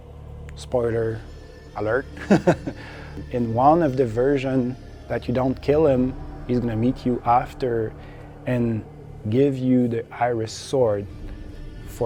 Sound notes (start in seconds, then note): 2.1 laughs